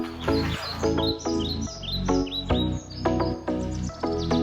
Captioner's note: birds chirping